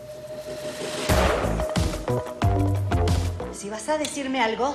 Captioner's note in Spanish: Disparo